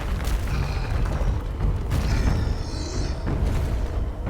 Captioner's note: creature growling